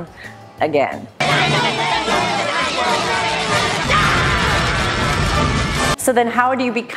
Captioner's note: Spongebob yelling and melting down